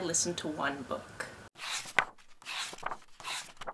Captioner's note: pages turning